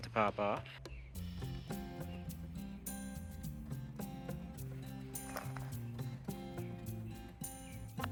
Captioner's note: birds chirping